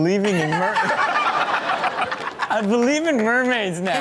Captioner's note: erupt in laughter